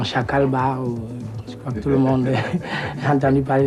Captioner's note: laughters